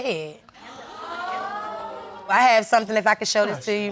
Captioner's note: audience murmuring